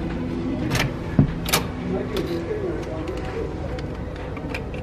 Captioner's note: door clicking; gentle music